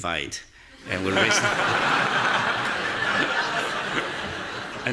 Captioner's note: audience laughing